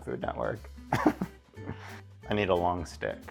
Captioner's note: chuckles